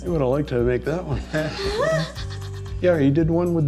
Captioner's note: laugh